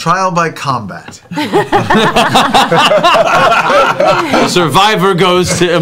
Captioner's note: laughter